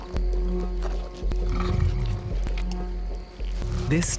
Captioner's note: growling